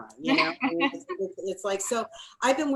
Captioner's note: laughs